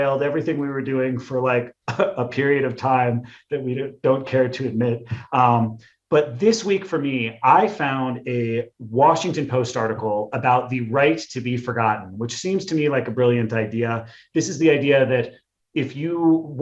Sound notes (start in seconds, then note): 1.8 chuckles